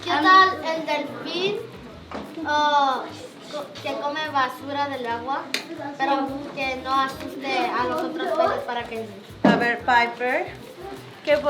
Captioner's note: speaking and instructing in Spanish